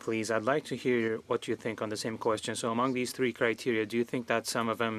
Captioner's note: speaking French